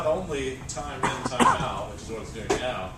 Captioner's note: cough